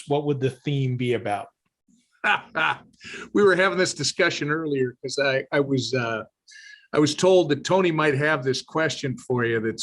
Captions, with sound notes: what would the theme be about? - (laughs) We were having this discussion earlier 'cause I was told that Tony might have this question for you.